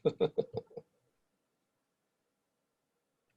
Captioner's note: laughs